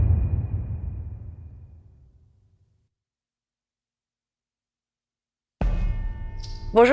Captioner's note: dramatic sound